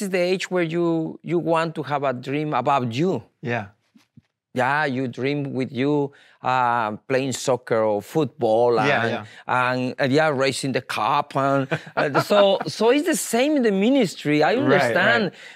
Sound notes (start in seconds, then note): 11.6 laughs